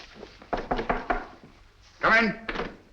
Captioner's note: knock at the door